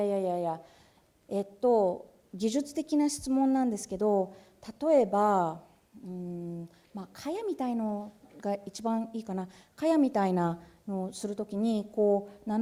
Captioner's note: speaking japanese